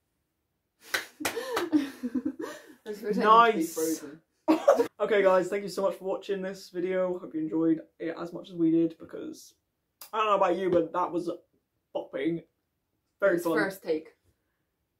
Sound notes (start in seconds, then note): 1.0 laughs